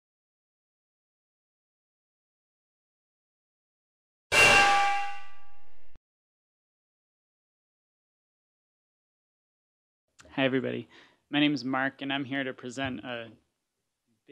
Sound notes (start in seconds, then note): 4.3 clang